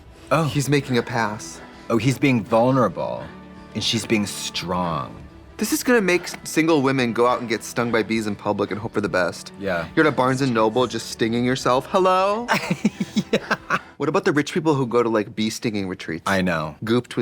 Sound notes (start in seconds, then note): 12.5 laughing